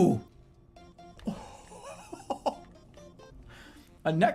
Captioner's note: shocked laugh